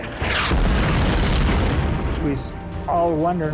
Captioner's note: shells exploding